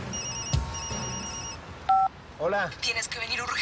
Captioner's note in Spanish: Suena un celular